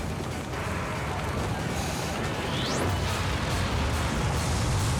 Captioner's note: fire roaring; tense ominous music